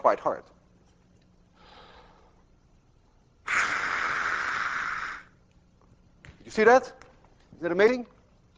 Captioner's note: inhales deeply, blowing hard